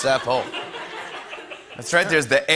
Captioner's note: laughter